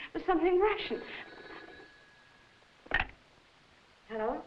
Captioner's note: phone ringing